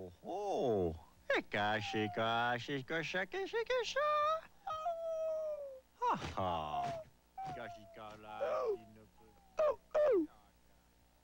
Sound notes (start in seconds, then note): 0.3 man speaking playfully; 4.5 baby seal crying meekly; 8.4 parent seal barking sadly